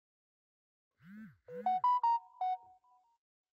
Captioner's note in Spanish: Sonido de notificación de mensaje